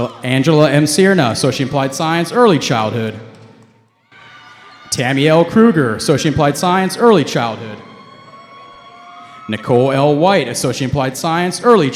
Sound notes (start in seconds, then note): 8.3 cheering